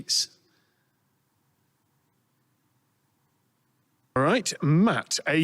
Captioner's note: more awkward silence